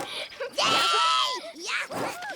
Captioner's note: grunts